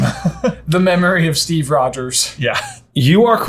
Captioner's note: laughing